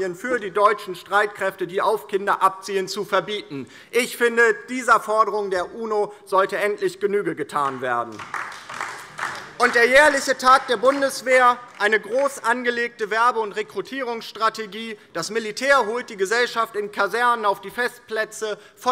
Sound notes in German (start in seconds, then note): 7.6 Beifall DIE LINKE